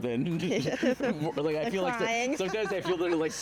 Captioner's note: laughing